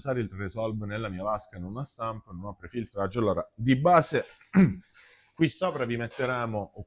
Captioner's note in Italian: schiarire la voce